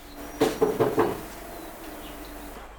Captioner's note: knocking